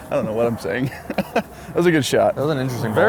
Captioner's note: laughs